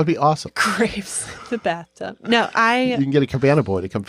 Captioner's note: chuckles